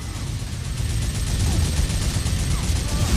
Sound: minigun sounds

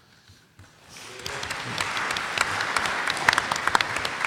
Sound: applause

